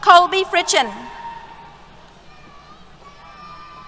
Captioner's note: cheers